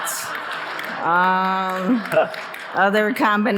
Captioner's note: audience laughing